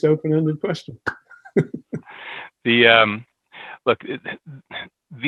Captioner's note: laughs